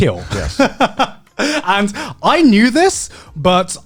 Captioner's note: laughs